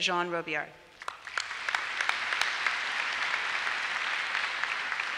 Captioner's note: applause